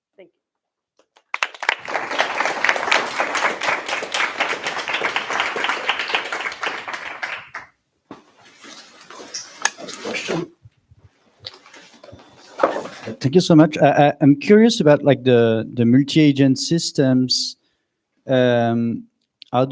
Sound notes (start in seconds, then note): 1.1 applause